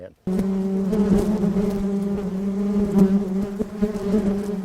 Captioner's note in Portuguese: Zumbidos de abelhas